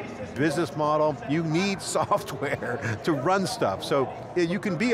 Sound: chuckling

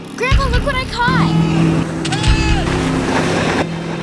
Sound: yelling

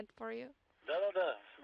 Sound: foreign language

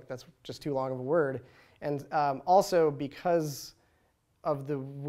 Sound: none

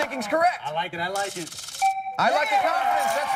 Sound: chime

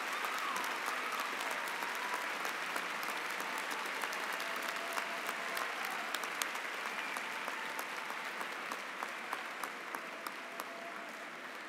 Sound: cheering and applause

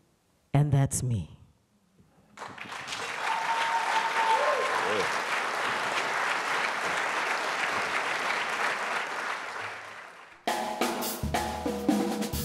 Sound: applause

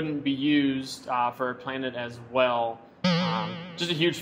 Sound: springing noise

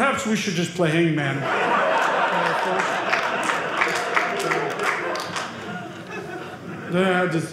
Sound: audience laughing

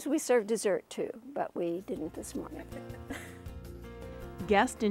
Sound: laughing

